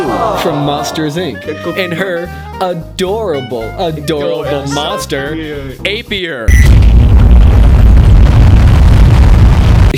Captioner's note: monster noise